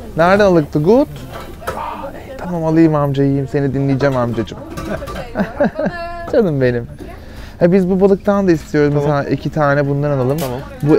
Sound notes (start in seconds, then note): 4.8 laughter